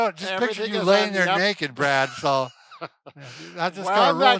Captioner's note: laughing